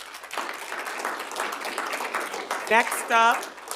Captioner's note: audience applauding